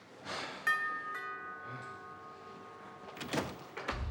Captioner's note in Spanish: Timbre de la puerta